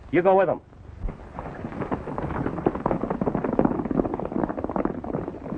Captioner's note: horses galloping